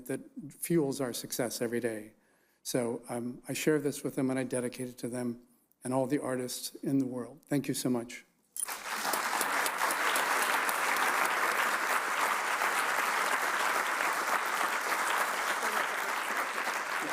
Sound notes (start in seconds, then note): 8.6 audience applauds